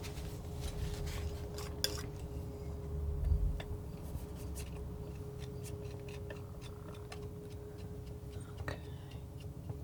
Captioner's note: scraping